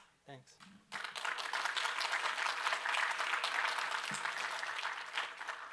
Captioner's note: applause